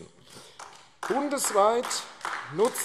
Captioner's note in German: Beifall AfD